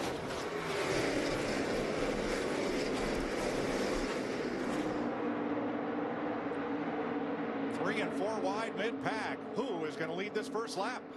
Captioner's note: engines roar